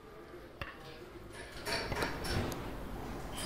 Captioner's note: hammering